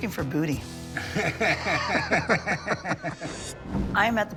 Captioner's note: laughter